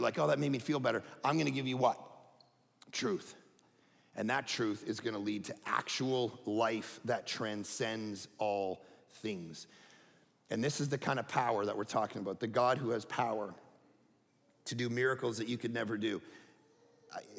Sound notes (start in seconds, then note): none